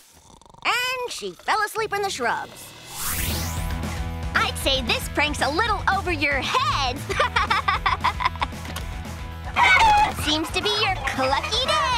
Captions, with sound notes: And she fell asleep in the shrubs. I'd say this prank's a little over your head. [laughing] [clucking] Seems to be your clucky day.